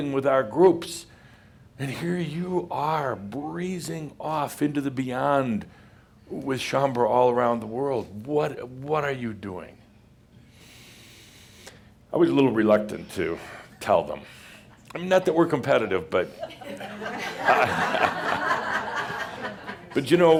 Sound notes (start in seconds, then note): 16.2 laughter